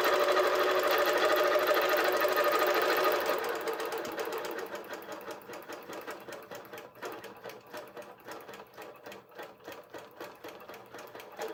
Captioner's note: machine whirring